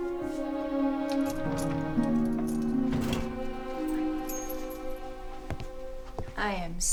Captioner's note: keys jingling; drawer rattling